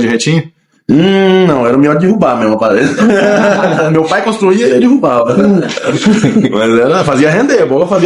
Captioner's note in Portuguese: risadas